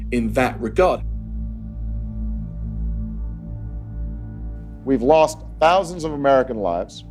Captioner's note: soundbite of archived recording